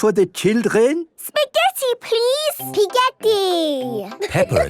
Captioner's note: laughing